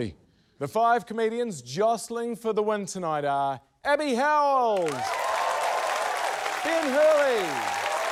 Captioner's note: cheering, applause